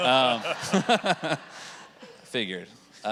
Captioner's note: audience laughing